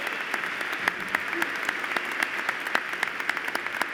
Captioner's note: applause